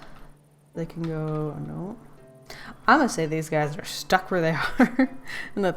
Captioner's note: laughs